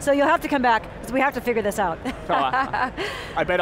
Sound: laughs

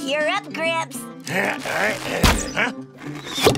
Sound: grunting

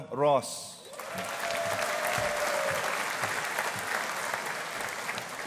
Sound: audience applauding

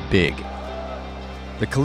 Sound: crowd cheering

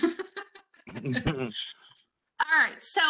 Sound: laughing; chuckling

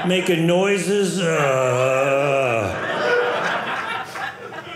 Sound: groaning

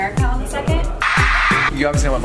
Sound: crowd screams

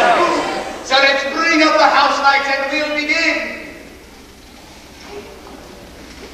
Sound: noise of theatre crowd. much over-lapping audio

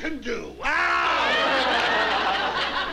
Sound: screaming

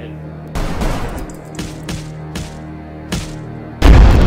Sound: gun shots and sounds of beating

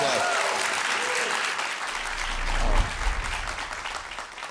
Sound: audience applauding

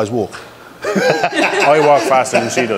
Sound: everyone laughs

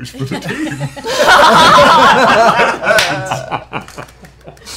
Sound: laughter

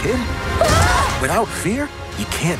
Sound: screaming

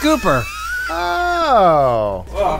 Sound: wheezing

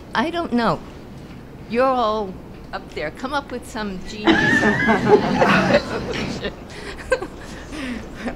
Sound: laughter

